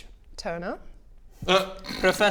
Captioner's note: sniggers